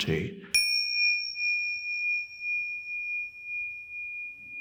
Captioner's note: bell dings